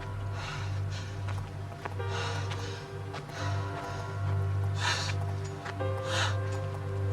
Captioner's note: tense dramatic music; Jack panting; tense dramatic music